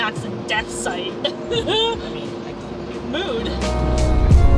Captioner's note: laughs